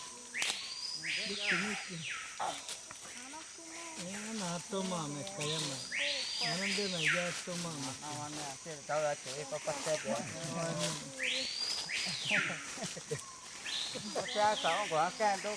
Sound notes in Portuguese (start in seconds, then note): 6.4 Conversa na língua dos Cinta-Larga